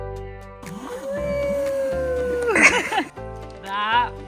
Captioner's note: laughs